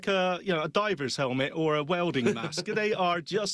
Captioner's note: laughs